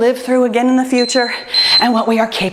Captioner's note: timer beeps